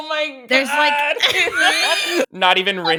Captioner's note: laughs